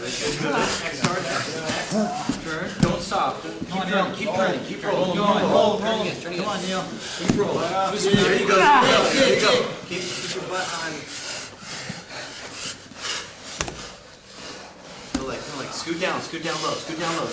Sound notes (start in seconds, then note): 4.6 men encouraging fighters; 8.3 heavy breathing